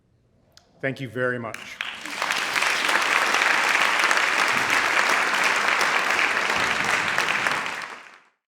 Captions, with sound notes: Thank you very much. (applause)